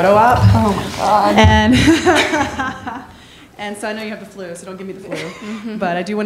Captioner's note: laughing